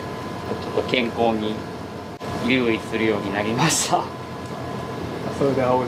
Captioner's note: laughs